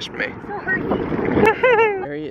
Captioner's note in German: lacht